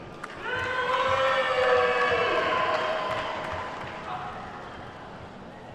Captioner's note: attendees whooping and clapping